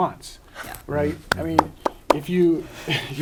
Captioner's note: claps